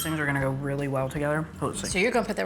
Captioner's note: spoon tinkling